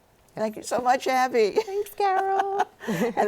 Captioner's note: laughs